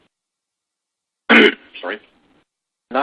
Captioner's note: cough